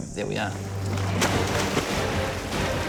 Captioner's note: splash